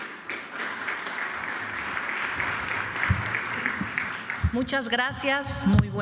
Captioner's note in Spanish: aplausos